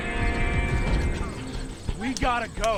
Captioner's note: crickets chirping